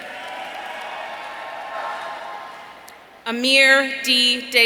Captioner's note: audience cheering